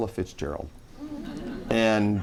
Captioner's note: laughing